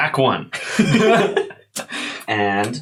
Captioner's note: both laugh